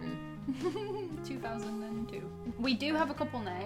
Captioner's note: giggles